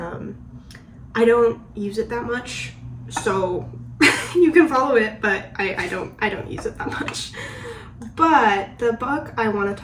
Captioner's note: stutters